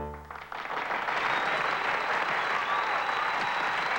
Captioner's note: wild applause